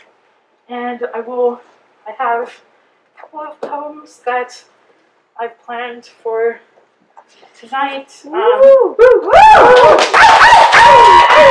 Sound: applause

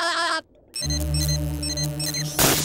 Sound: laughing; beeping; popping

